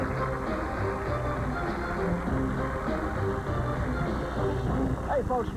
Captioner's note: applause